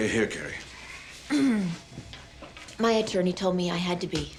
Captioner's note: clears throat